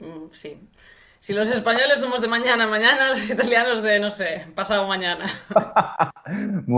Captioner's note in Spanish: risas